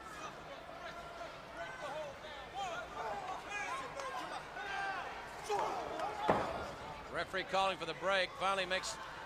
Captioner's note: crowd chatter